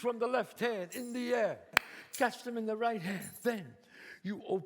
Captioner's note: claps